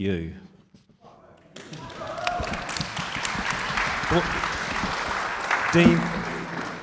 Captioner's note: audience cheers and applauds